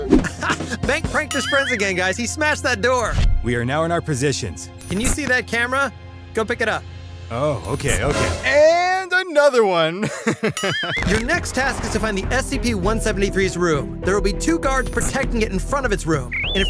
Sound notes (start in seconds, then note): 0.2 laughs; 10.0 laughs